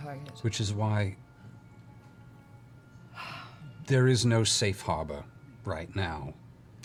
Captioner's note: sighs